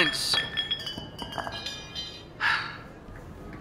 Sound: weapons clattering

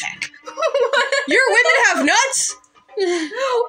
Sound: laughing

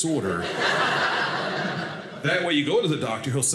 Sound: audience laughing

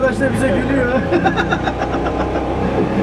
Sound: laughing

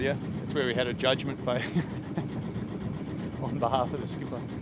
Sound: laughs

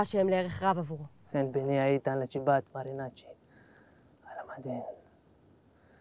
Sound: Turkish

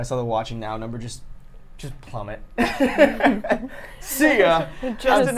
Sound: laughs

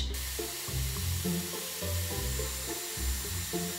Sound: blow dry sound

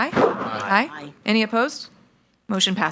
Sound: in Unison

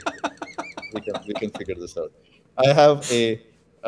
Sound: laughter

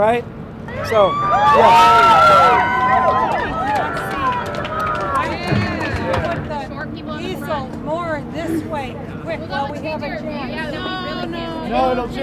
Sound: background discussion of painting

